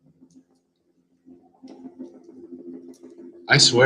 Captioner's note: helicopter buzzing